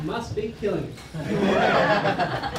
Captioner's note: laughter